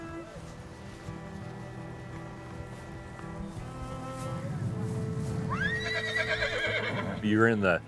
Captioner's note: dreary violin music; horse neighing